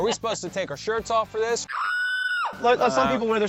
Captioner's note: screeching